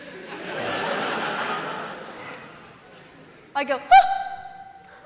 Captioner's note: surprised shriek